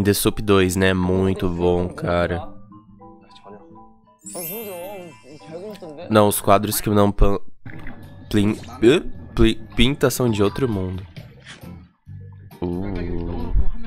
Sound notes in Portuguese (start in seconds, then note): 10.3 risos